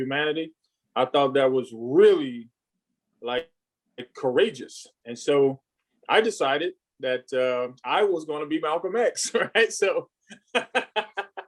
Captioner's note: laughs